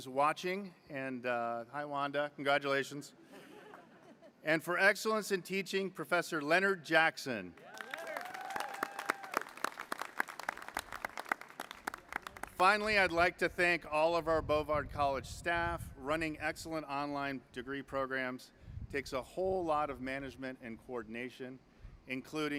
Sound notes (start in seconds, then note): 7.6 applause